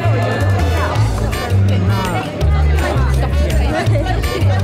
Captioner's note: chatter